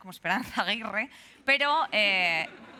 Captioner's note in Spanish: Risas